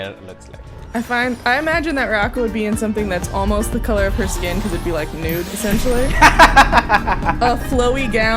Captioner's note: laughter